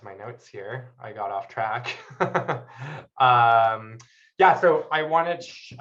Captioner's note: laughs